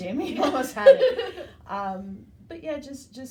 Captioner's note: laughs